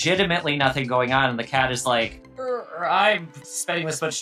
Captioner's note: groans